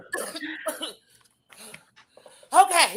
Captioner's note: Blair coughing